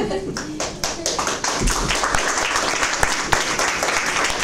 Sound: applause

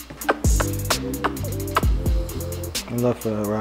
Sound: kissing

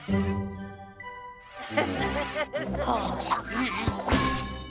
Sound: gentle music; Whizzmo laughing; Cozmo sighs; gentle music

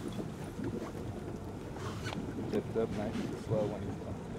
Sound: fish splashing

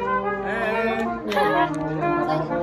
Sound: laughs

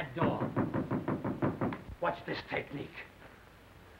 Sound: knocking on door

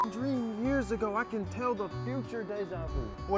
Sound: beep

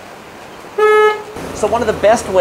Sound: horn honking

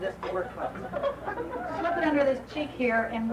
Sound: laughing

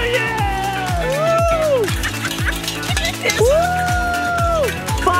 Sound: everyone cheering

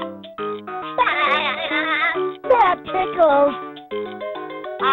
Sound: laughing

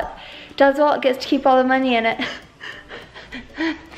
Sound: laughs

